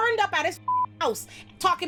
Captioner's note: beep